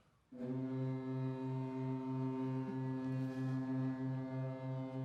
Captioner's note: ship horn blows